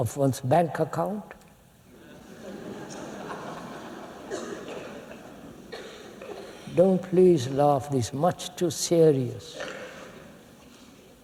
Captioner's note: laughter